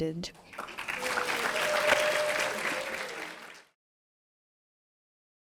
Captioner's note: audience cheering and applauding